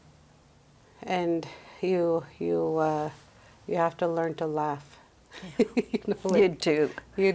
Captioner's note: laughs